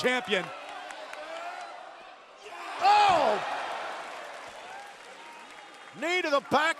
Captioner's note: crowd cheering